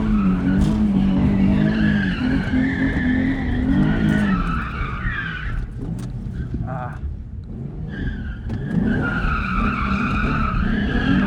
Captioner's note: engine revving